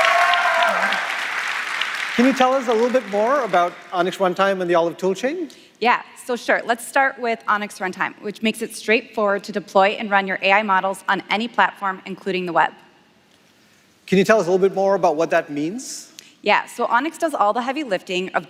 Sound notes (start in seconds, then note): 2.3 applause; 4.4 cheers